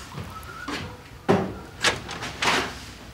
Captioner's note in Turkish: kapı açılır